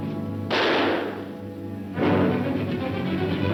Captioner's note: gun firing; dramatic music